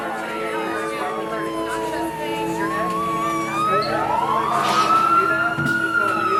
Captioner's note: ambulances wailing; people chattering